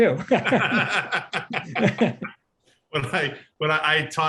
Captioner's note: laughing